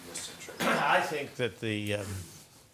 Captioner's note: cough